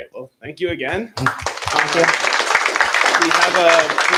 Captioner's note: applause